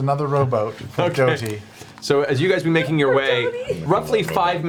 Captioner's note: laughing